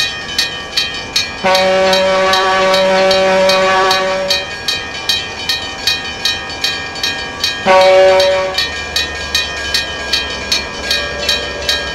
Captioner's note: CB&Q Pioneer Zephyr horn